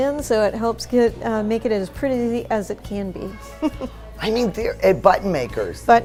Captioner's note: chuckles